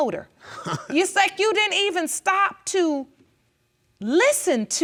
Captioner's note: chuckles